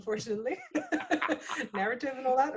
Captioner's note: laughing